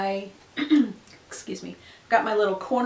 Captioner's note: clears throat